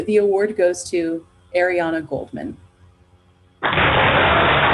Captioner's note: applause